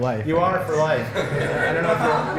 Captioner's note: laughter